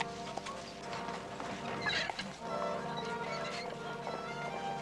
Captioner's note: armor creaking